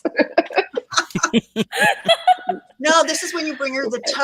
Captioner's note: everyone laughs